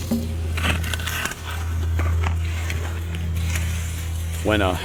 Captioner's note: branch scraping against tree